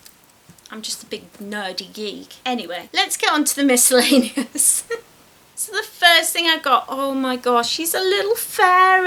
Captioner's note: laughs